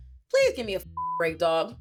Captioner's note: beep